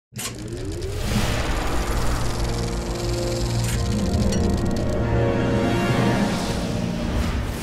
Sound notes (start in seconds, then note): 0.2 film projector spinning